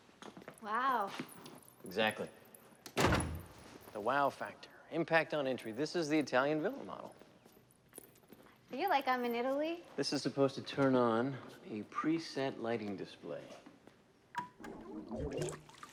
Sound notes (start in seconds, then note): 13.7 beeps